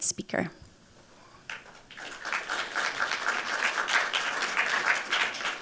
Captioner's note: applause